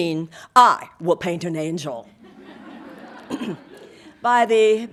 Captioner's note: audience laughing